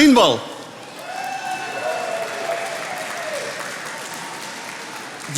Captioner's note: attendees applauding